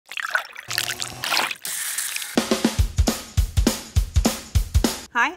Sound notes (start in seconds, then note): 0.0 liquid pouring; 0.0 water dripping; 0.8 meat grinding; 2.1 upbeat music